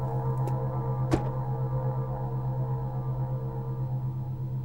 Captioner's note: door clicks